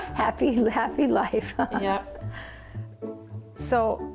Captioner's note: laughs